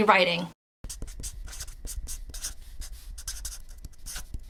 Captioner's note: pen scribbling